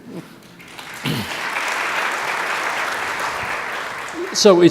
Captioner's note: audience applauds